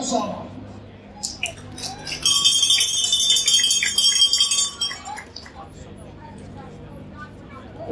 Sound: crowd cheering and clapping

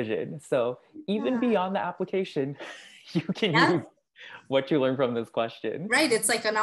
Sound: laugh

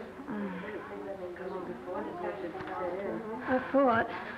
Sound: chatter

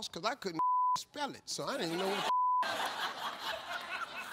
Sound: audience laughing; beep

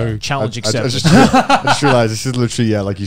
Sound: both chuckling

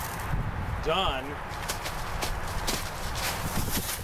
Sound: rustle

